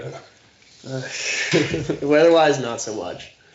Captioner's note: chuckling softly